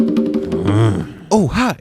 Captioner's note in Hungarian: Dühös morgás